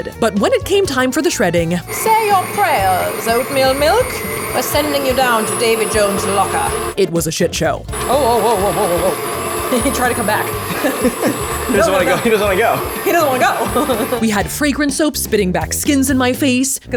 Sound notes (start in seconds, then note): 10.7 both chuckling; 10.9 mixer whirling